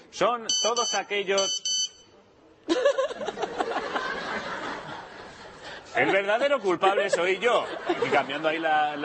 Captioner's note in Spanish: Suena el móvil